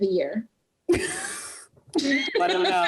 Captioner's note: laughing